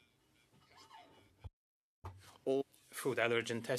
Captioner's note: speaking French